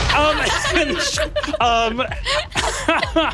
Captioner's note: players laughing